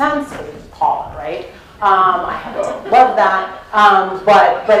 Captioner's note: laugh